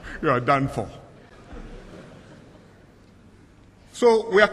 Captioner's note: laughter